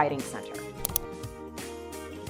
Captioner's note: mouse Click